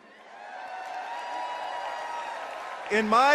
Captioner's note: applause